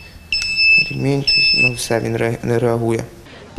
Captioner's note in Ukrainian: Писк